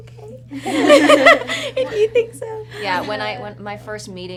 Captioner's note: cast laughs